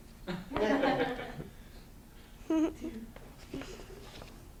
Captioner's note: students laugh